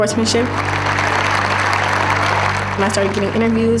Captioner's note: audience applause